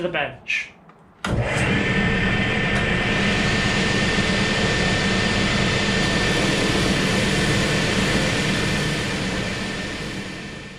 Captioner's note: loud machine and vacuum noise